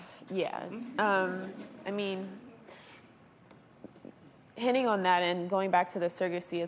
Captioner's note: laughter